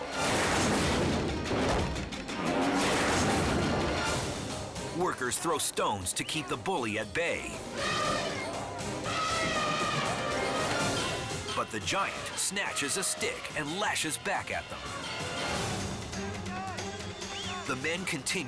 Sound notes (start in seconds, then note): 0.1 elephant smashes; 7.6 elephant trumpets